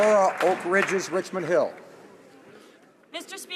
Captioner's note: some Applause